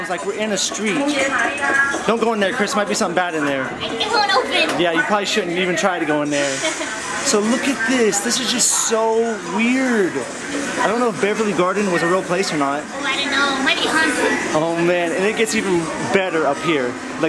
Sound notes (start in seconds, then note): 1.6 woman speaks Japanese; 6.5 laughs